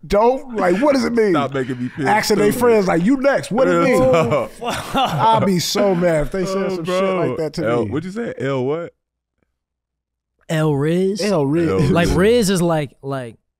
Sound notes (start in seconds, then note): 5.8 laughs; 12.6 chuckles